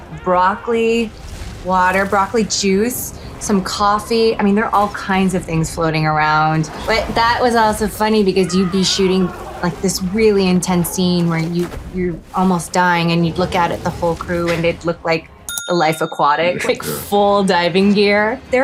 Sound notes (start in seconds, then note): 15.4 bell chiming; 16.3 dramatic music